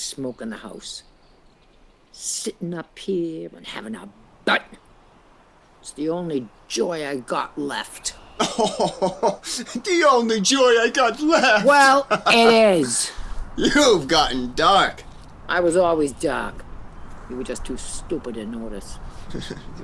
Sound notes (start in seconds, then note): 8.1 laughing